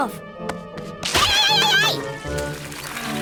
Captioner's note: splashing; squish